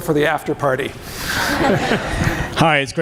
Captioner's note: laughing